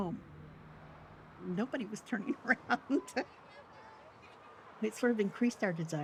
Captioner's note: laughing